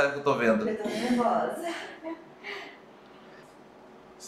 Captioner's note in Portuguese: risos